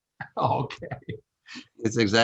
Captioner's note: chuckles